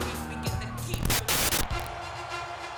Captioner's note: static crackles; triumphant music